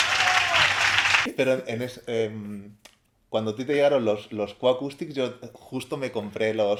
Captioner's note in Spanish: Aplausos